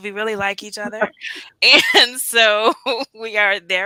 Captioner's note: laughter